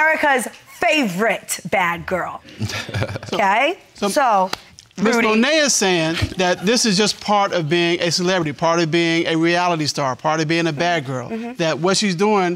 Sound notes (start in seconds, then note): 2.6 laughs